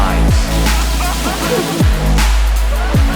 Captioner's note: uplifting dance music; laughter